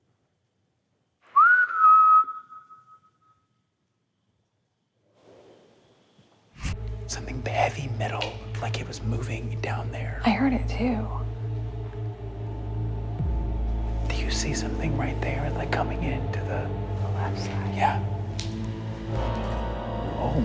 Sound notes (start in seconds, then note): 1.2 whistles; 11.1 suspenseful music; 18.6 suspenseful music